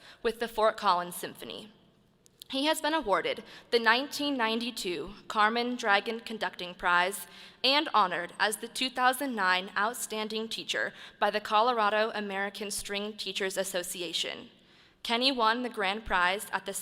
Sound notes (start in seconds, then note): none